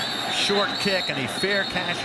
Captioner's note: whistle blowing